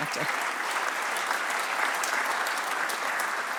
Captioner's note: applause